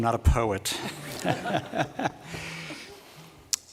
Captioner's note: laughter